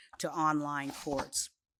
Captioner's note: none